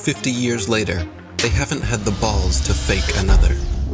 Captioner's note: pitido